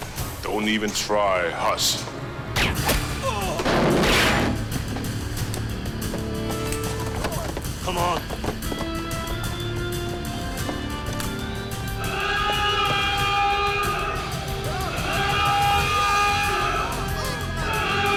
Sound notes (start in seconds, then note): 3.7 gun fires; 12.0 alarm wails